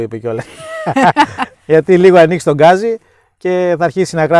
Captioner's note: both chuckle